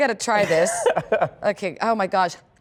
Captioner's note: laughter